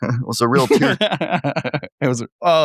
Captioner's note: laughing